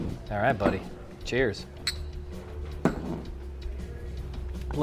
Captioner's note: glasses clink